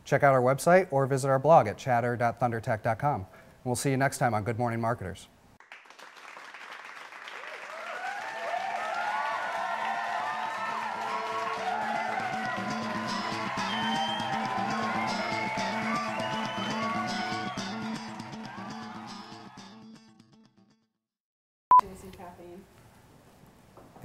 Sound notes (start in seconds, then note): 5.6 applause